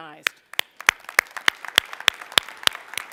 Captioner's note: applause